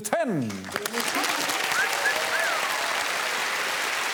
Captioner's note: applause